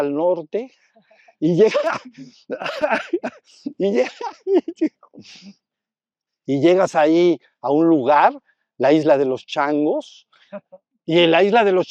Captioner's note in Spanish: risas